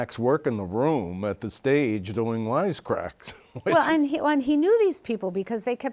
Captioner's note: chuckles